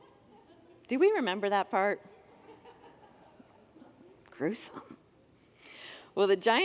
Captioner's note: congregants laugh